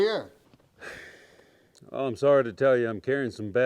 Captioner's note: Austin sighs